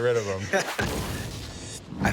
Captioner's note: explosion